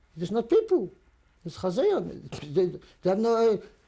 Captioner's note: non-english